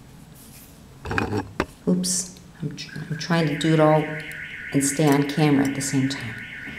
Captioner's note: car alarm sounds loudly